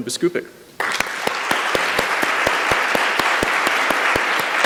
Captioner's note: applause